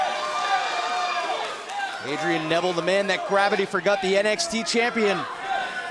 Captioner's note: cheers & applause